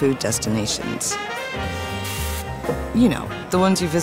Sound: lively music; food sizzling

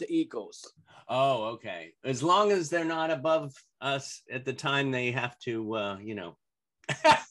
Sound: laughter

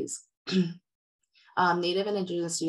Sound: clears throat

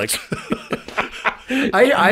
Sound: both laughing

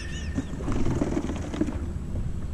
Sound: laughing

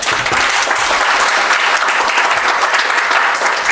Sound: audience applauds

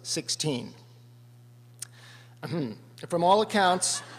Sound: ahem

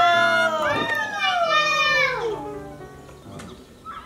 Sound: cheering

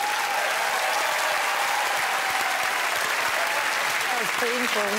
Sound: applause, cheering

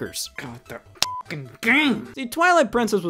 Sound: beep

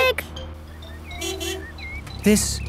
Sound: honking

